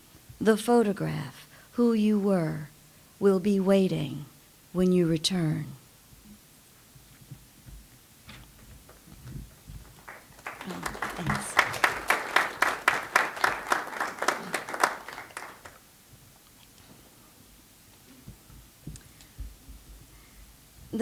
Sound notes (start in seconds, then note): 7.1 clapping